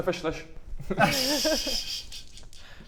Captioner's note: laughs